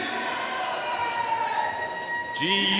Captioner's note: audience cheering and applauding